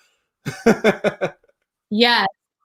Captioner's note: laughs